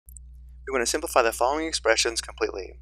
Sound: voiceover

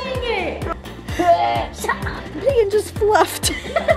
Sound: gagging

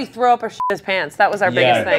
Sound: beep

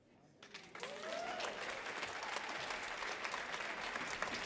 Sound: audience applauds

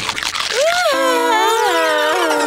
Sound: groaning

